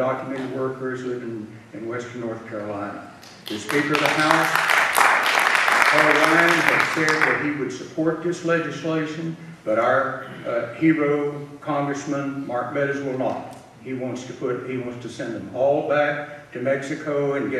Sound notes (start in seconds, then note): 3.2 audience clapping